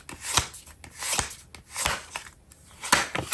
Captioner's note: drawing cards